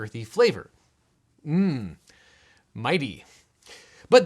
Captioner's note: man humming